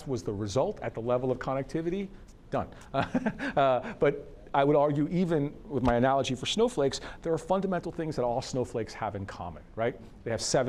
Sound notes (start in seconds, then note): 2.9 laughs